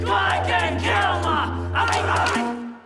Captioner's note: cheering and applause